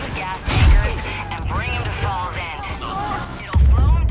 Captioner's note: guns firing; dynamite exploding